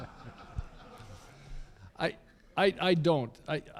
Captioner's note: laughter